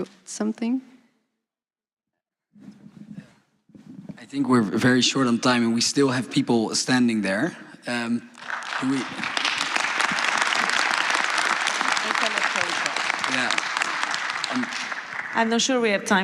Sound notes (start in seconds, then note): 10.4 applause